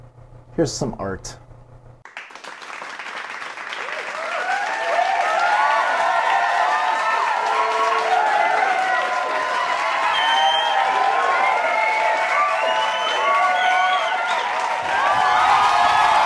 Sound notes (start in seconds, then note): 2.0 cheering and applauding